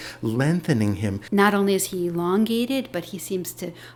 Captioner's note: voiceover